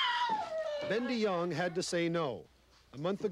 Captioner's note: baby cries